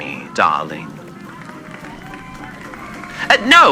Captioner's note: passersby cheer and clap, thinking it's real